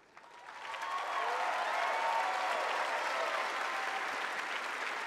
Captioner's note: applause